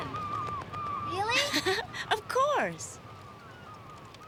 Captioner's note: giggles